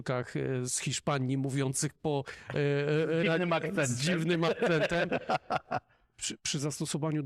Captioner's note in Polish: śmiech